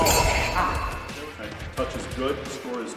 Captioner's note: blade sound effect